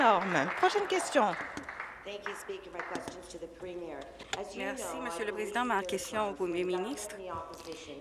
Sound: applause

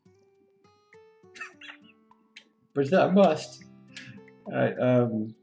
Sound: chuckles

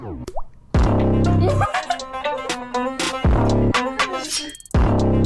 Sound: laughs

